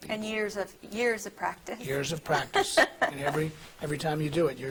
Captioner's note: laughing